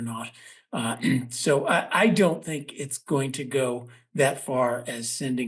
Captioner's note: cough